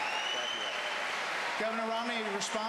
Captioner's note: applause